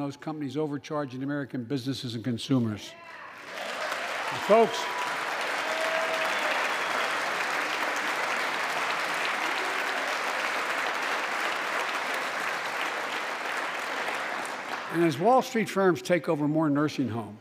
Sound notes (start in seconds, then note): 3.3 applause